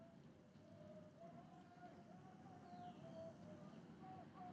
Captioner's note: yelling in the distance